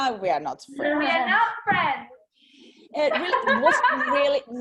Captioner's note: laughs